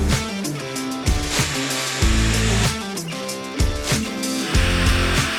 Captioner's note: rock music; machine whirring